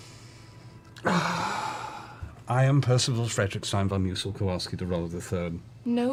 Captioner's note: sighs